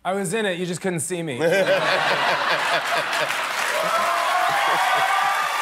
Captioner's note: laughter